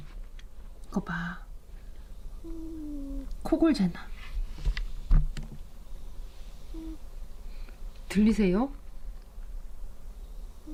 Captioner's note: DD snoring ASMR